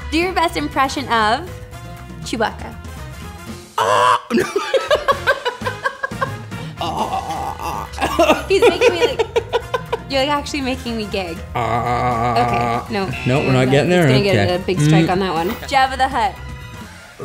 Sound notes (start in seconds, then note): 3.8 crow caw sound; 4.3 laughter; 6.7 gurgling sound; 11.5 gurgling sound